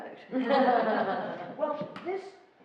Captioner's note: laughing